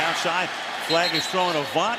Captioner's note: whistle blowing